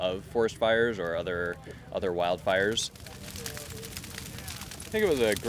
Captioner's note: fire crackling